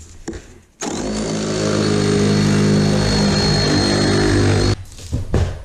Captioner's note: sawing noises